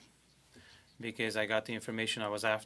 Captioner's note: speaking French